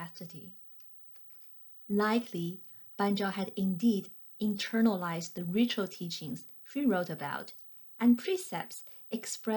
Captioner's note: click